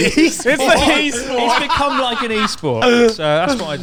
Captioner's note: laughs loudly